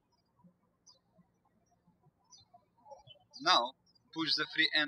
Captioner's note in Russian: птички щебечут